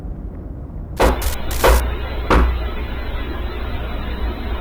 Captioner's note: glitch static and hard knocking on the door